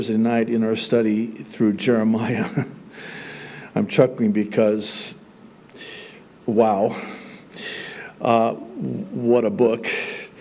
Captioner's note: chuckling